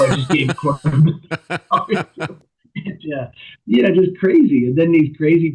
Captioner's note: laughter